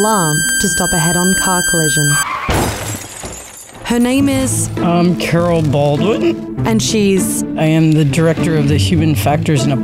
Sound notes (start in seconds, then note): 0.0 high pitched beeping; 2.5 loud smashing